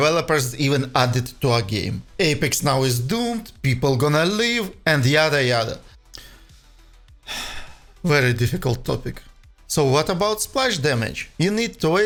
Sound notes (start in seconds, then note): 7.2 sighs